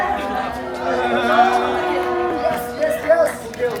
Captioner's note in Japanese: パチパチ